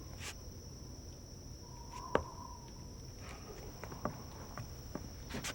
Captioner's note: air whistling